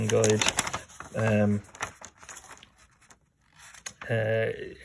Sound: paper screeching

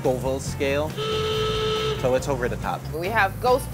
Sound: sfx klaxon horn

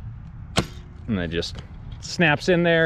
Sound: battery clicking

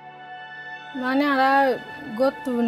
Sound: non-english speech

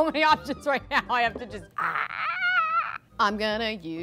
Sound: pterodactyl screech

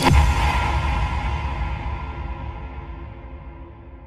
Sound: resonant boom

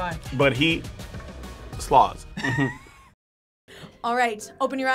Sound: both laugh

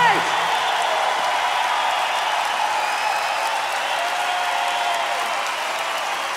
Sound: audience cheering and applauding

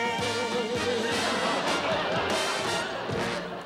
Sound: audience laughing

